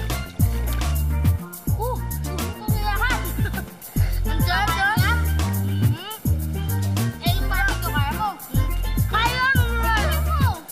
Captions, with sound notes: -[Jonas blows] I'll eat it all! -[chuckles] -It's delicious, no. -It is delicious. The barbeque, can you eat all of it? -Yes. -Eat it!